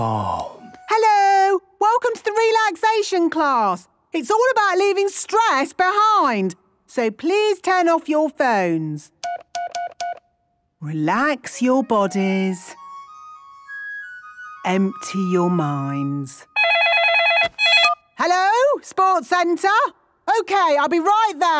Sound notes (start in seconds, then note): 16.5 phone ringing